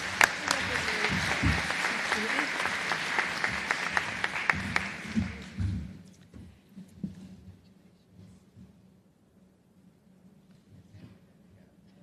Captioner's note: applause